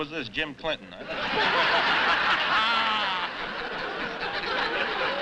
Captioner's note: laughter